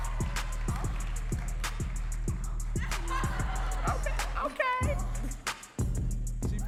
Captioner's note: audience cheering and laughing